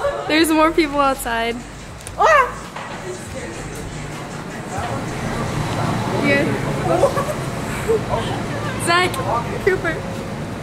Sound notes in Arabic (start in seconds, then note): 2.2 تصرخ